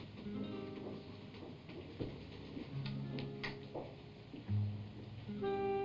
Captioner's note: melancholy music; footsteps; melancholy music